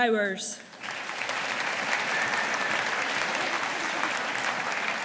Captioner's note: audience applauding